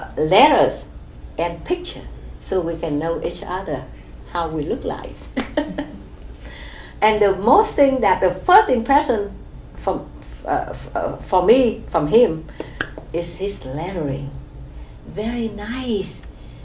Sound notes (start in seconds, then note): 5.3 laughs